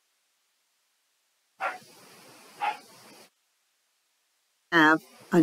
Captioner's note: dog barking